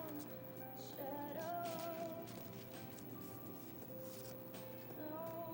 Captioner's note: bills rustling